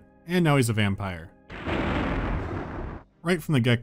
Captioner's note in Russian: Раскат грома